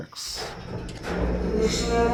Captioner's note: elevator moving